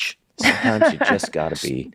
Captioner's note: laughs